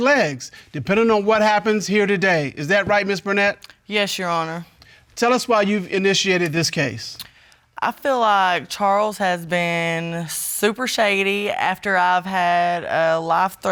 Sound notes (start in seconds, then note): none